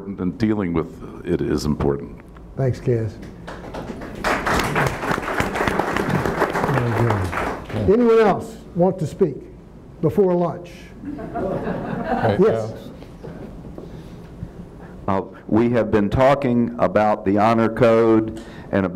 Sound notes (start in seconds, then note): 3.4 attendees applauding